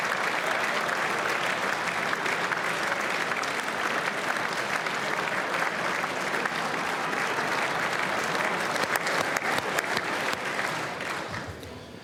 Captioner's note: cheers; applause